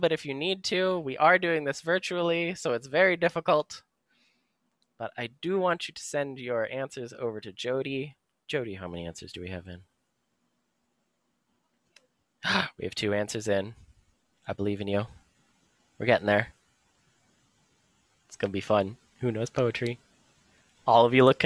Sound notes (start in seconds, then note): 9.8 silence